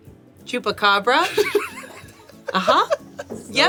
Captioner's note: laughs